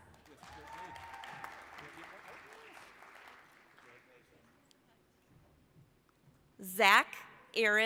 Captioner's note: applause